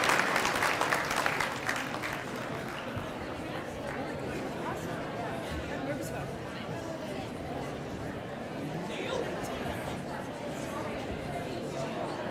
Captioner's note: applause